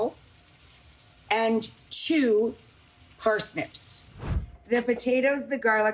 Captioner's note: air whooshes